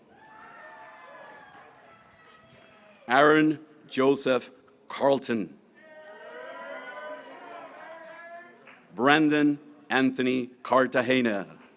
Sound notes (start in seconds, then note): 3.0 graduates cheering; 8.3 graduates cheering